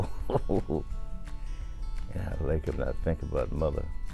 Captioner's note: chuckles